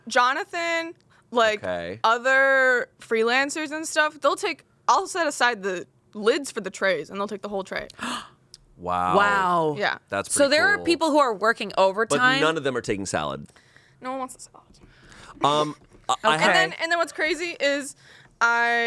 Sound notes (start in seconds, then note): 7.9 gasps